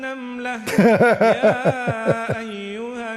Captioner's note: Ketawa